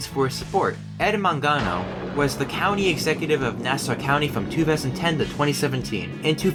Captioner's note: thunder